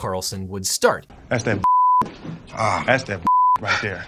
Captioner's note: beep